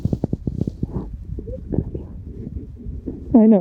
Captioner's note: weeping